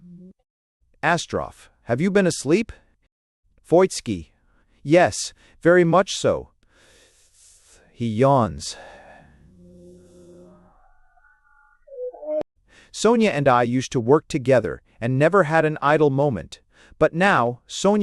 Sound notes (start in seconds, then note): 4.1 he yawns